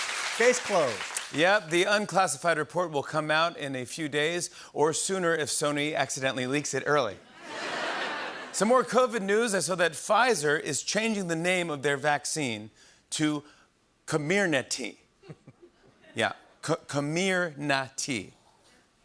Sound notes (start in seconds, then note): 7.2 laughter; 15.0 smattering of laughter